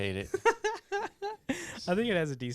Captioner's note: laughing